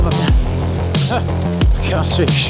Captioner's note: laughs